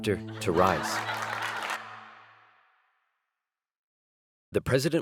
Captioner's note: crowd laughing